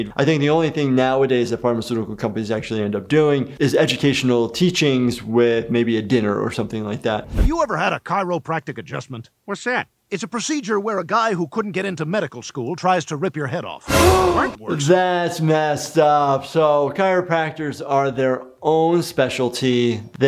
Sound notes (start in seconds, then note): 13.8 gasps; 13.9 dramatic music